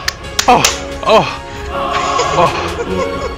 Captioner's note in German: audible orgasm